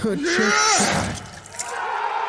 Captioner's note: sword slashes; crowd cheering